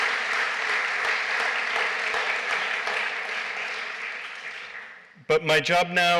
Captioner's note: applause